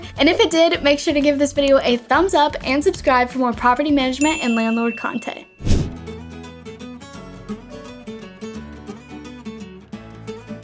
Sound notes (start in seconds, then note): 4.2 bell dings; 5.7 cheerful music